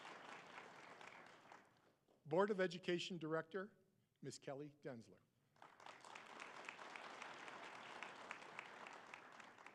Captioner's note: applause